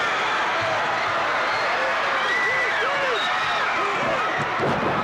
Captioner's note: audience roaring